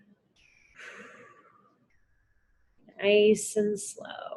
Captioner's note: exhales